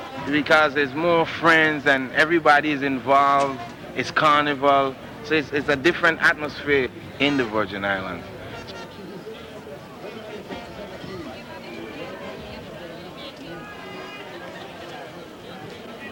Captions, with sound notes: Because there's more friends and everybody's involved it's carnival, so it's, it's a different atmosphere in the Virgin Island. (people chattering)